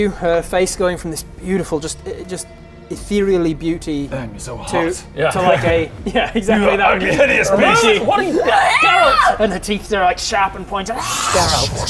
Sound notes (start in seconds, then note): 7.4 aaaaaaaarh!